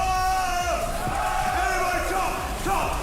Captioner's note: crowd